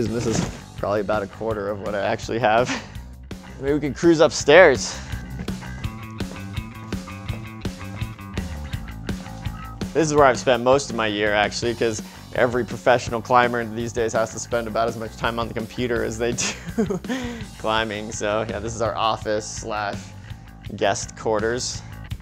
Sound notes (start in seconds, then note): 2.7 laughs; 5.1 instrumental rock music; 16.5 laughs